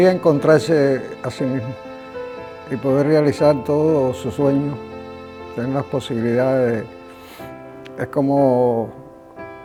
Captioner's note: speaking Spanish